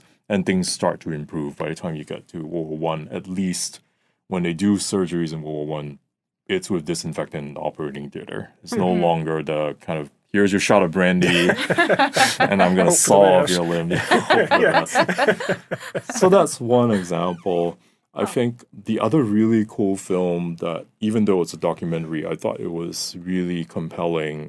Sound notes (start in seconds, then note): 11.2 laughing; 14.1 all laughing